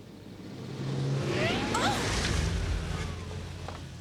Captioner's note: engine stopping